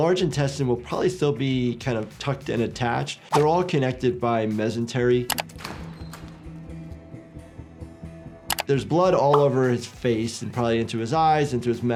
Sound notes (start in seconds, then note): 5.2 mouse clicking; 5.3 door creaking; 6.2 low tense music